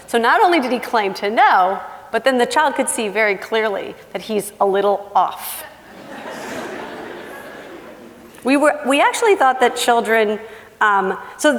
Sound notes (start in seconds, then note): 6.0 laughing